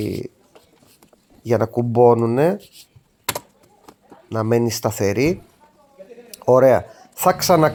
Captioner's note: chuckles